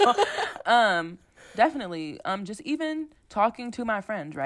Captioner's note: laughter